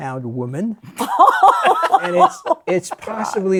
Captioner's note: laughter